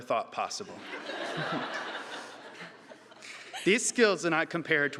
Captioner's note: audience laughing